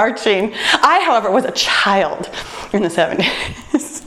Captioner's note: laughs